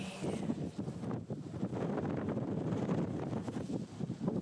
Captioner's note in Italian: rumore di vento